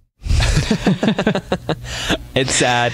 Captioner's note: laughter